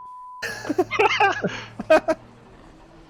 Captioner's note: bladewolf and saber giggling